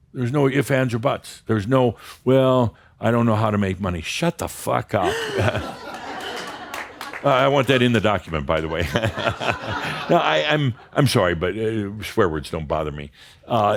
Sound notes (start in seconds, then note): 5.0 gasps and some laughter; 9.2 Adamus chuckles